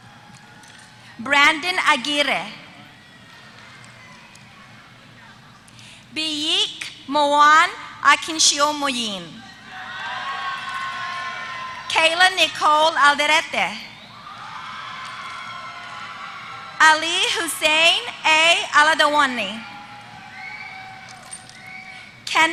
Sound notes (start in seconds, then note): 2.4 applause